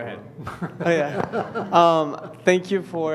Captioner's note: laughter